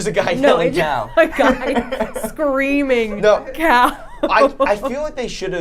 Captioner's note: laughing